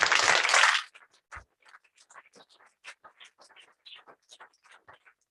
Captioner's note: applause